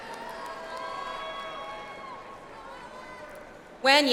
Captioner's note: audience applauds